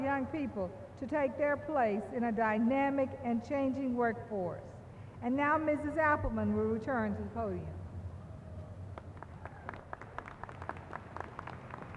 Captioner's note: applause